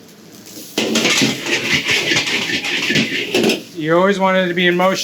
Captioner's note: wok clanging